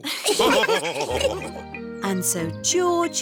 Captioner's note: laughs; all laughing